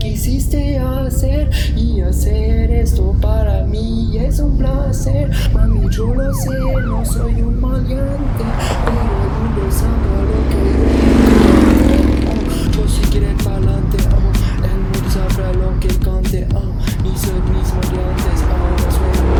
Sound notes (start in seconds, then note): 12.0 fast motorbike passes